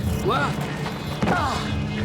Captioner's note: grunting